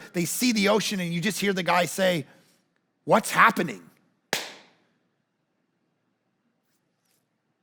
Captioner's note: claps